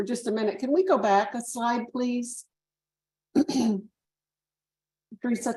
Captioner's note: clears throat